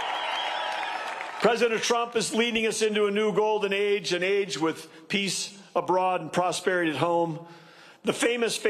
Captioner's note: cheers and applause